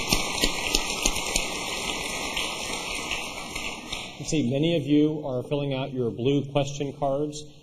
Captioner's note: applause